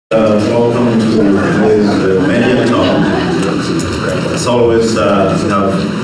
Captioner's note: chatter